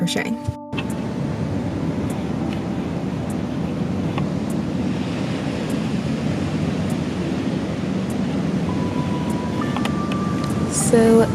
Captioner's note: waves sound